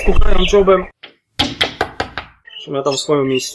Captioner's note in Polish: stukanie